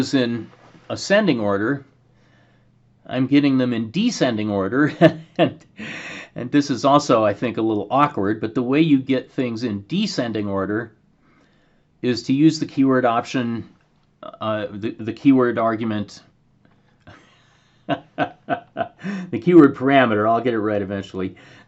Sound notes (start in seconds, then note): 4.8 laughter; 13.6 laughter